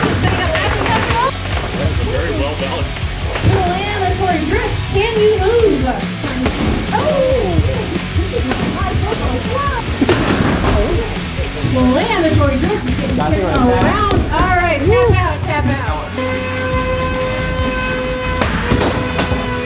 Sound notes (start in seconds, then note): 0.3 robots thudding; 7.0 robots thudding; 16.9 robots whirring; 19.2 robots continue whirring; 19.2 robots thudding